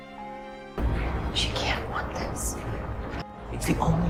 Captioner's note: voiceover